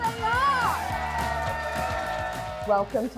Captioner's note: all applauding